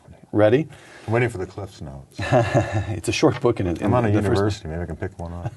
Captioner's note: laughter